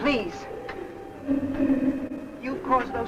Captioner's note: faint muffled chatter